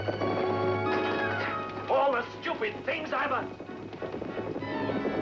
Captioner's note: horses Approaching